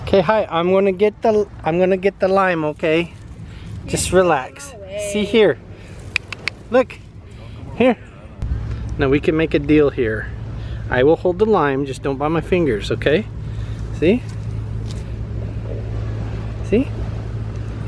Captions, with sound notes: 'Kay, hi, I'm gonna get the lime, okay? Just relax. See here, (clicks tongue) look, here! Now we can make a deal here. I will hold the lime, just don't bite my fingers, okay? See? See?